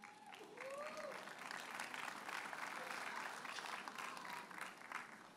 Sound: audience cheers and applauds

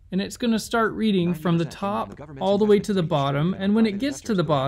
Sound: voiceOver reads the book in the background

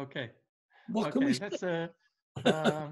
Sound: murmurs

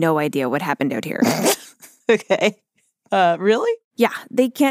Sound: laughs

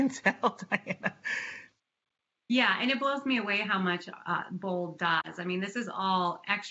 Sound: laughter

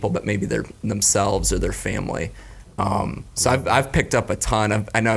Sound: none

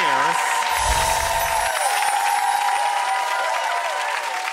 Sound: audience cheering; twinkling sounds

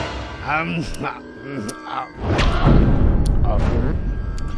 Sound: slurps

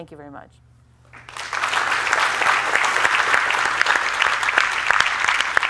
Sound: applause

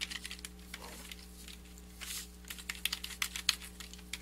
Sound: keyboard clacking

